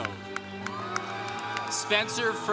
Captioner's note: congregation cheering